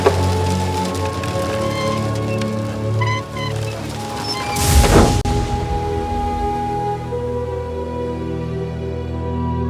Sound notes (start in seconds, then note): 1.9 wind howling; 6.3 dramatic music